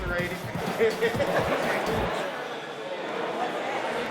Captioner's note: inmates laughing